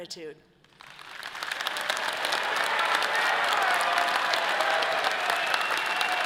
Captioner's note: audience applauding and cheering